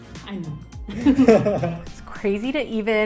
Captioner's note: both laughing